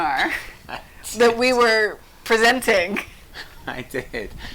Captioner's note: chuckles